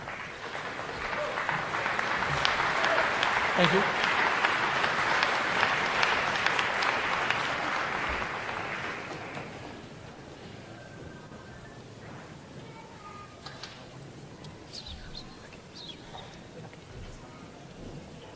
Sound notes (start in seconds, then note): 0.0 applause